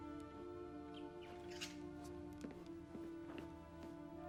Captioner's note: birds chirping